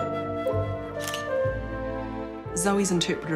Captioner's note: camera shutter clicks